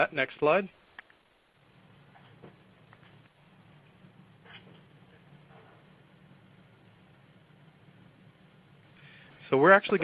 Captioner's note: silence